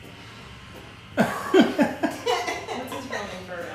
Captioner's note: laughing